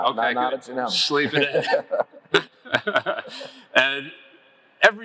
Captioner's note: laugh